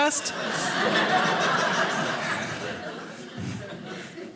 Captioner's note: audience laughing